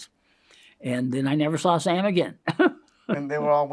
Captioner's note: laughs